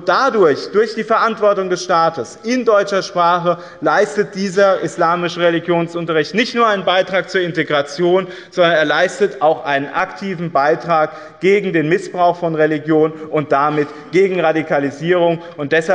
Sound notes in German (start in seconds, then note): none